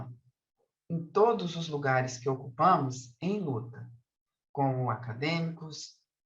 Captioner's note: continues speaking in Portuguese